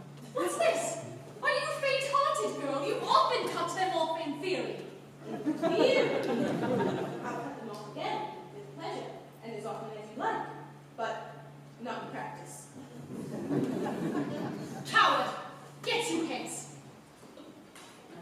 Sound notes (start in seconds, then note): 5.2 laughter; 12.9 laughter